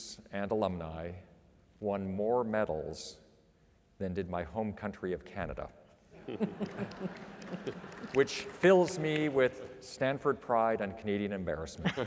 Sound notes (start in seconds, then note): 6.2 applause